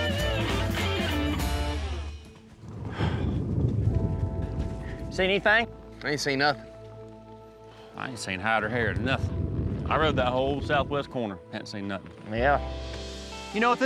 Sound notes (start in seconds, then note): 2.6 thunder rumbling